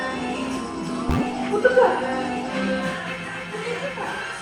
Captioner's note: chomp